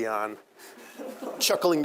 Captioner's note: students laughing